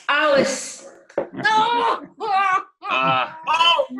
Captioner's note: laughter